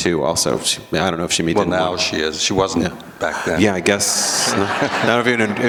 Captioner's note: laughter